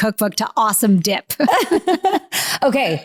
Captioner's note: both laughing